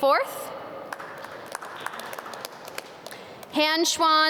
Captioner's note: audience clap